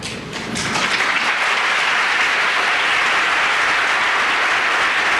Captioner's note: applause